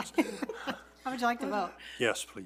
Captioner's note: all laugh